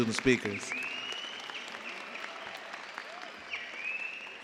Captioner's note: cheers and applause